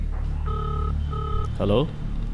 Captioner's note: phone calling